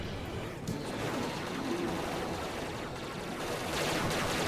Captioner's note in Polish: klangi i strzylaczka ze growych maszin